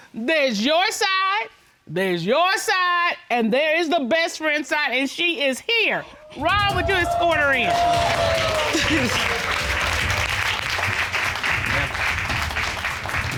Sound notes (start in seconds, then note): 8.2 cheers and applause; 8.7 chuckles